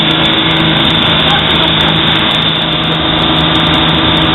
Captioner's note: light laughter